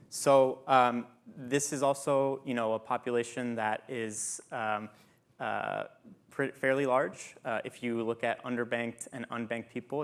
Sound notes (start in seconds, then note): none